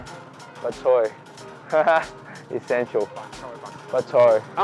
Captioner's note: laughs